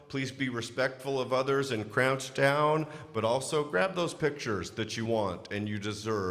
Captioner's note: none